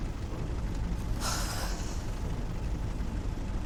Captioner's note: sighs